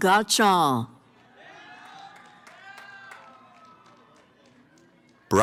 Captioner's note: cheering